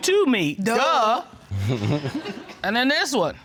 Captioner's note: chuckles